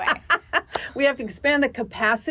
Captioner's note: laughs